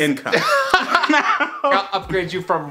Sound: laughing and wheezing

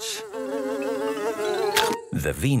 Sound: buzzing; chomps

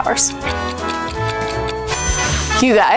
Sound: clock ticking

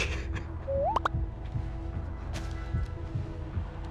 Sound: cell phone chiming

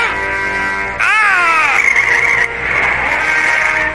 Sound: tires squeal; gasps

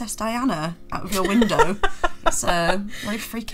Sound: laughing

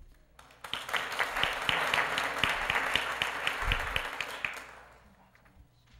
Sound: applause

